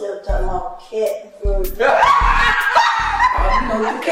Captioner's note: laughing